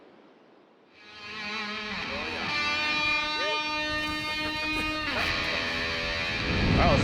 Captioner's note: electric guitar music; people chattering